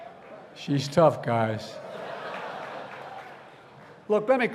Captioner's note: laughter